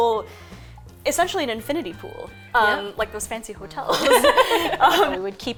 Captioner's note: laughter